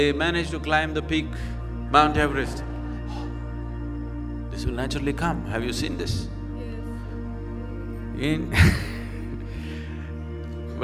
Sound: laughs

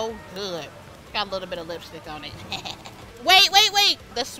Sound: laughs

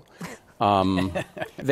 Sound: laughter

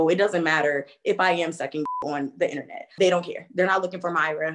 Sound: beep

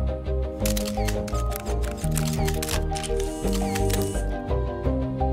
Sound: camera shutters clicking; gentle music continues

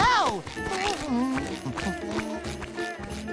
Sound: laughing; humming

